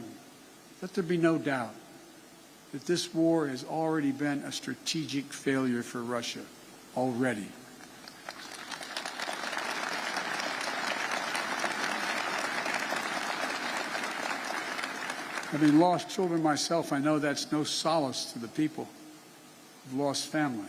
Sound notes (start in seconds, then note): 12.8 applause